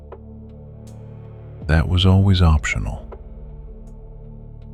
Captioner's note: whisper